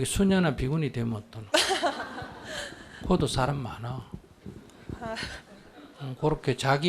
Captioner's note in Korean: 질문자 웃음